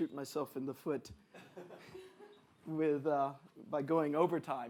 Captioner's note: audience laughs